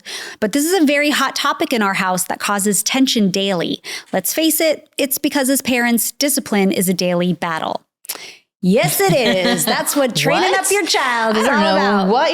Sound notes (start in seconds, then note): 8.8 laughing